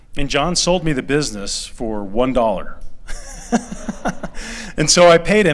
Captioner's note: laughter